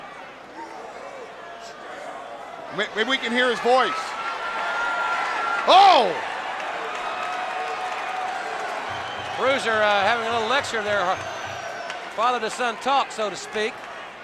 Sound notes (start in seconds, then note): 5.7 Paul exclaiming; 7.8 crowd cheering